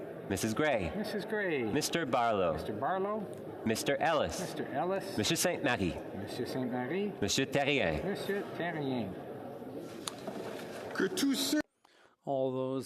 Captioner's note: calling of recorded vote